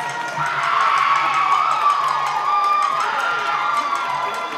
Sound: yells

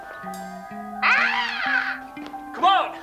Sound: screeches

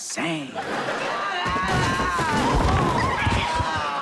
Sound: screaming

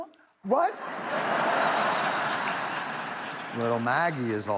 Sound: audience laughs

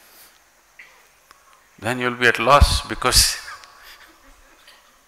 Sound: laughs

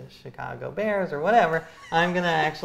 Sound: laughs

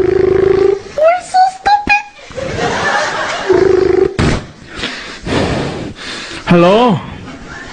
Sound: breathing heavily

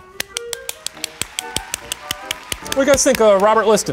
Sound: clapping

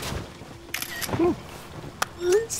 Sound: camera click

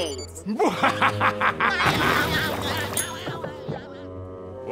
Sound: laughing

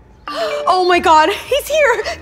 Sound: text pinging; giggling

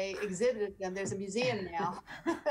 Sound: everyone chuckling

